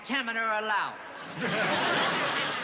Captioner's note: laughter